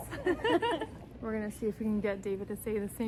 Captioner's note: laughing